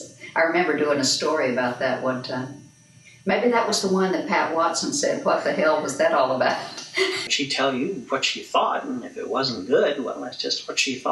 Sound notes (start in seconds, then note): 6.5 laughs